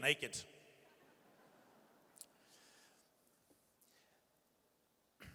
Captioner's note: audience chuckles